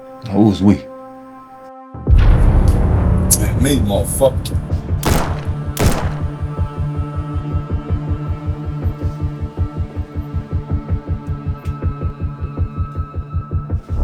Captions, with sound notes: - Who's we? (suspenseful music) - That's me, motherfucker! (gun shoots) (suspenseful music)